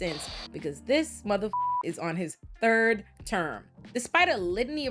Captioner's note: beep